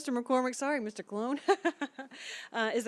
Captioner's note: laughter